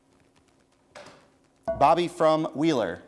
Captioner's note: bell rings